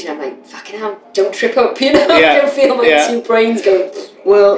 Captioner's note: laughter